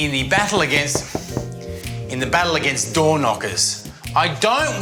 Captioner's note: knocking